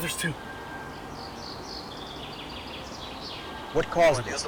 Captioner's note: bird chirps